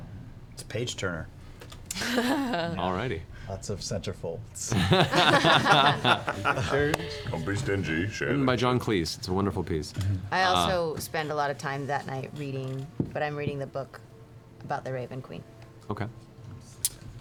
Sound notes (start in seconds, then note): 4.7 laughter